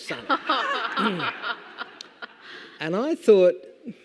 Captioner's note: audience laughing